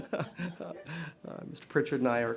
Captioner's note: laughter